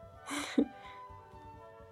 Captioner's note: chuckles